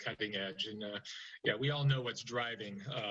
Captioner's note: laughter